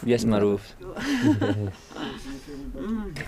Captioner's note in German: Sie lacht